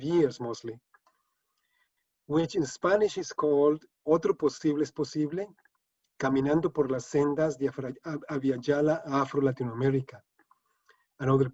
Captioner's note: speaking spanish